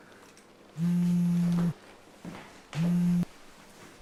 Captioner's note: vibrating